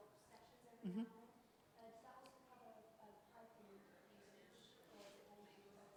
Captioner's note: faintly speaking